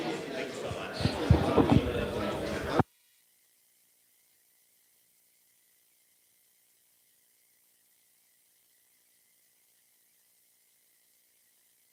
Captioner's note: no audio